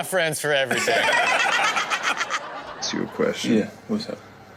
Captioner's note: audience laughs